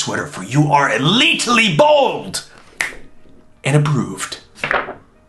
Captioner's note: snaps